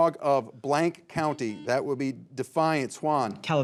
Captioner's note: signal beeps